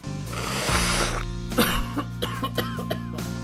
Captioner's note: snorting noise